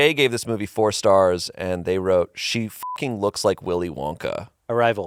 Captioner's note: beep